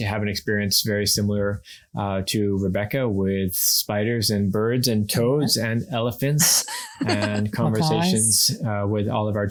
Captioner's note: laughs